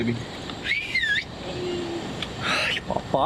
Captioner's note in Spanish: hombre en inglés; silba